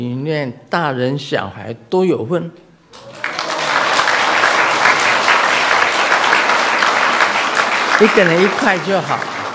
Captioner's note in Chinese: 眾鼓掌